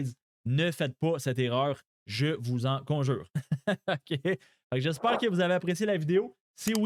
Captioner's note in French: rires